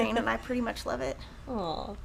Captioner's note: chuckling